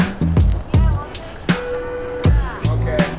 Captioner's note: chattering in the distance